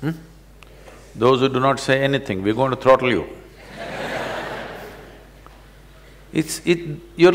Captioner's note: laughter